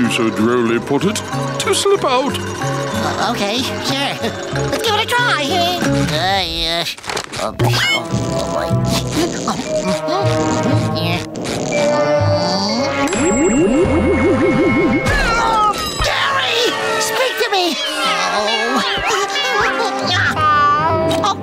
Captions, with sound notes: which will enable my "melon," as you so drolly put it, to slip out. Okay, sure. Let's give it a try. [muttering] [otherworldly music] [meows] Gary! Speak to me. Oh...